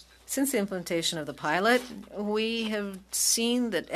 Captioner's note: speaking French